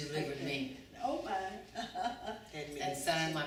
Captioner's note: laughs